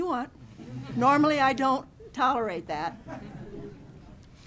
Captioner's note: laughing